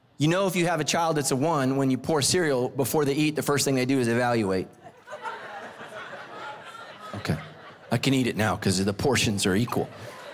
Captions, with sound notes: You know if you have a child that's a one, when you pour cereal, before they eat, the first thing they do is evaluate. (congregation laughing) Okay I can eat it now 'cause the portions are equal.